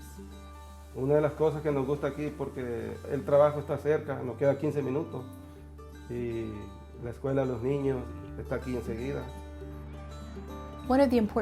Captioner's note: speaking in Spanish